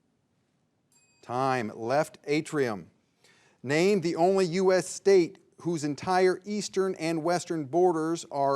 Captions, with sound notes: (bell dings) Time. Left atrium. Name the only US state whose entire eastern and western borders